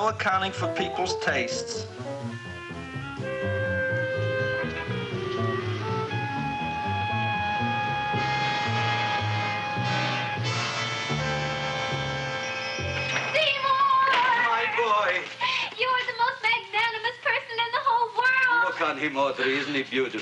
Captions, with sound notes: accounting for people's tastes. (tense music) (doorbell jingling) - Seymour! - My boy! - You are the most magnanimous person in the whole world! - Look on him Audrey isn't he beautiful?